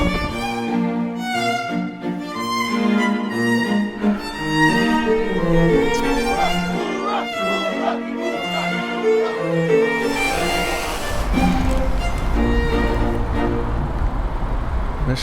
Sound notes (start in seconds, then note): 0.2 gentle orchestral music continues; 6.6 crowd chants; 9.8 drone buzzes